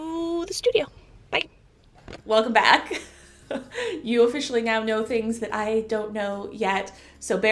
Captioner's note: chuckle